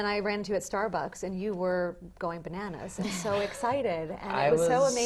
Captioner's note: laugh